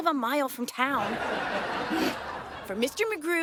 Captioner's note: audience laughing